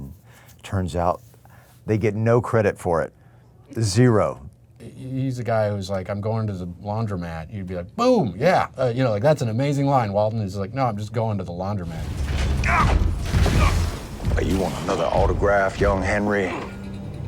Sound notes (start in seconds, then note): 12.4 Hank grunting; 12.4 footsteps thumping